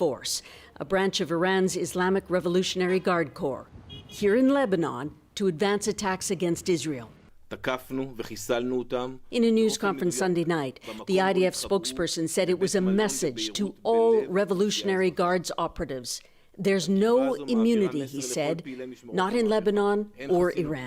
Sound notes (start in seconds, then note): 13.3 speaking Alternate Language